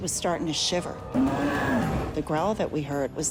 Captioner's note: growling